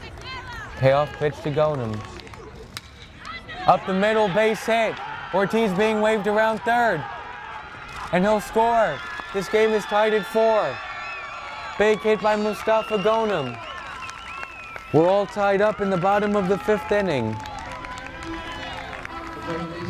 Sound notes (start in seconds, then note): 1.0 bat cracks; 9.2 crowd cheering